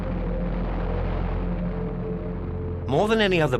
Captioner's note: planes roaring